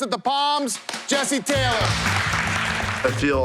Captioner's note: applause